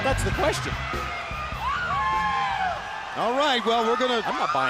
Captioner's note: crowd cheering